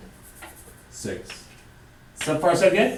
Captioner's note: voiceover